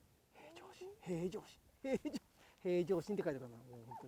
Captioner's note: laughs